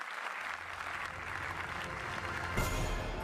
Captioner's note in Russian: Аплодисменты